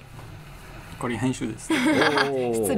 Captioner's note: laugh